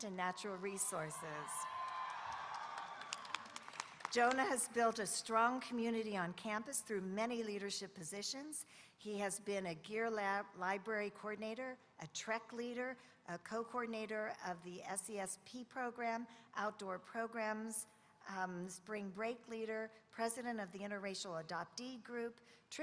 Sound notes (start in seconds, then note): 0.3 audience cheering